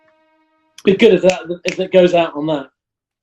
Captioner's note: clicks fingers